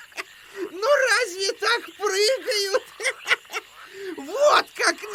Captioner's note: Boko laughs